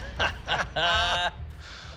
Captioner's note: laughter